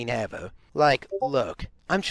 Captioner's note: Discord ping